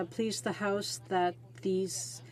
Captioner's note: speaking French